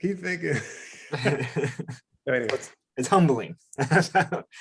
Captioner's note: laughs